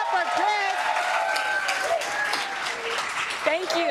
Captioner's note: cheers and applause